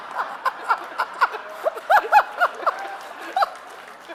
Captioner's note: audience laughing